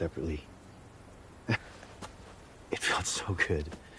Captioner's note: chuckling